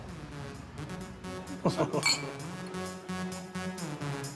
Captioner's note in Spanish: risas